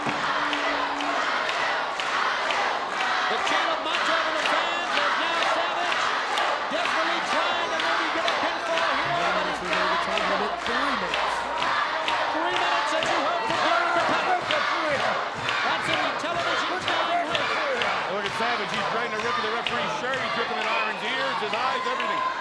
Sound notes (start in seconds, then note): 9.1 audience chants drowns out announcer